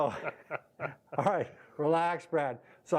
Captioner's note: laughing